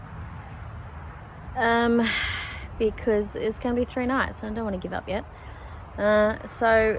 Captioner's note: sighs